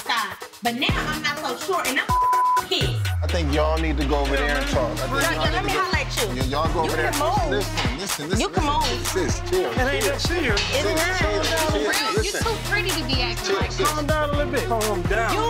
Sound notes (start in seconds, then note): 2.1 beep sound